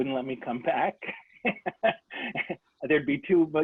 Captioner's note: laughter